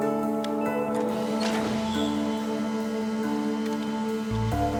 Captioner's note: motor hums